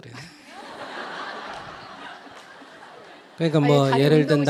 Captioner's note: questioner and Audience Laugher